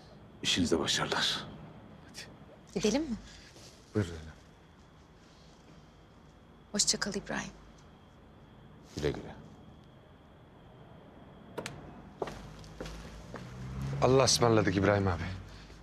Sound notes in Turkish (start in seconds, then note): 12.2 Ayak sesi